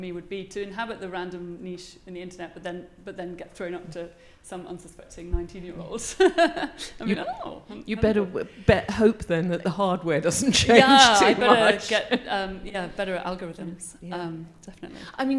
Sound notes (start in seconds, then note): 6.5 laughs